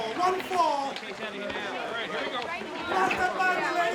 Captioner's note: people chattering indistinctly